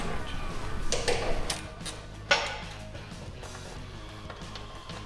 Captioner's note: tools clicking